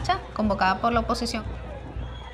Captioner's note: none